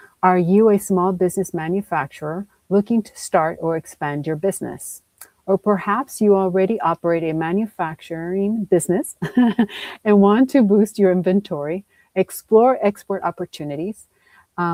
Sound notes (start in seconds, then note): 9.2 chuckles